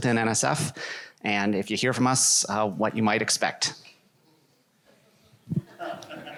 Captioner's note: laughter